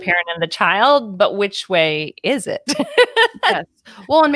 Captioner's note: laughs